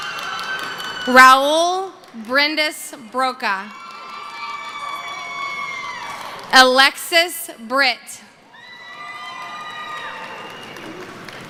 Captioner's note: cheering